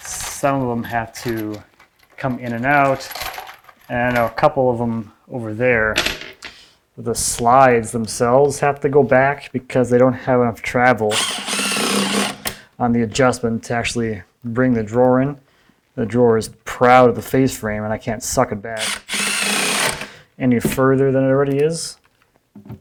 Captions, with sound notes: Some of 'em have to come in and out and I know, a couple of them over there with the slides themselves have to go back because they don't have enough travel (tool whirring) on the adjustment to actually bring the drawer in. The drawer is proud of the face frame and I can't suck it back (tool whirring) any further than it already is.